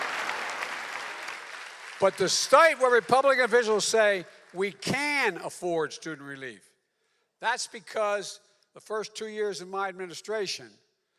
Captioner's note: applause